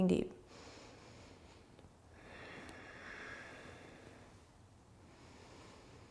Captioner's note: deep breathing